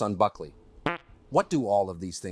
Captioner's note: soft percussive fart